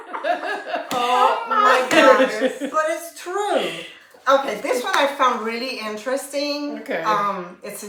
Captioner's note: laughter